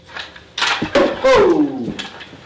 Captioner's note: bones clacking